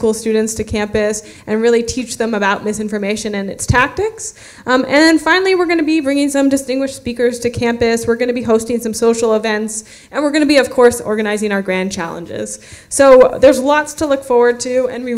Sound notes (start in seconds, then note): none